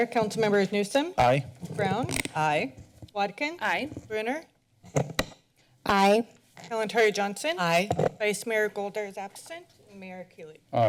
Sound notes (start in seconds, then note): 4.9 mic sounds